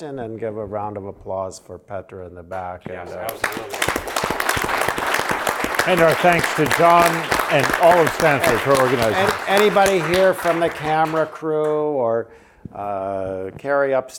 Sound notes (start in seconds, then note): 3.2 applause